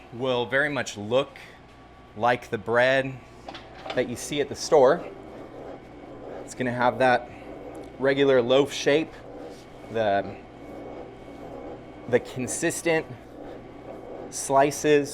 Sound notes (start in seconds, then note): 5.6 handle grinds